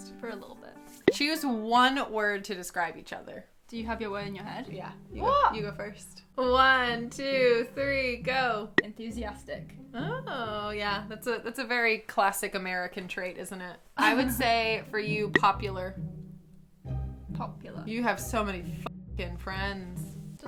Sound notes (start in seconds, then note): 14.0 chuckles